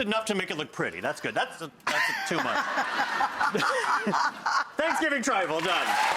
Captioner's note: audience laughs